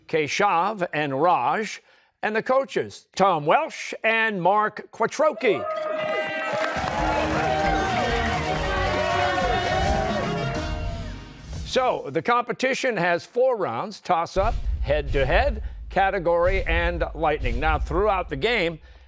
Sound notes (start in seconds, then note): 10.5 cheers and applause